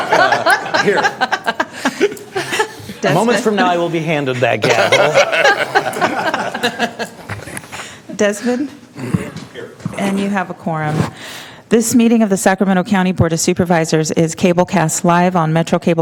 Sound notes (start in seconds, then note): 4.4 laughter